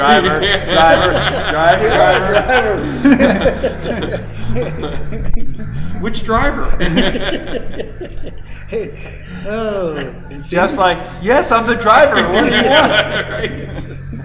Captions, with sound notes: Which driver? (both laughing) Oh. Jeff's like, yes, I'm the driver. What do you want? All right.